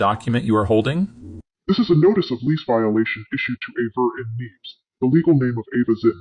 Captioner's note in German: verzerrt